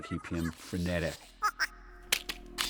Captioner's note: chattering; buzzing